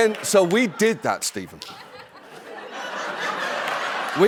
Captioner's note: laughter